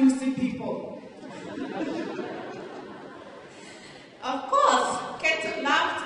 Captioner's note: laughter